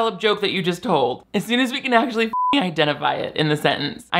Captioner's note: beep